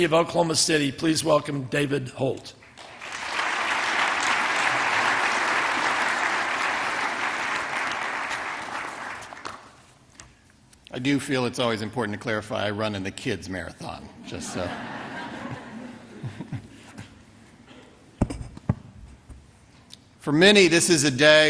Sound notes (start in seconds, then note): 7.2 applause